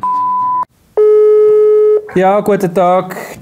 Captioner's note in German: Telefon klingelt